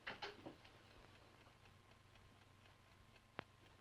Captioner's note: ticking